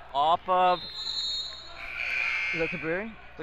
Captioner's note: whistle blows; buzzer rings